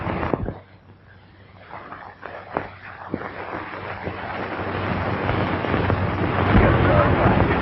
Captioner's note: distant rumbling